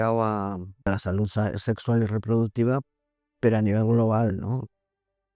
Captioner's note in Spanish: Voz off - IG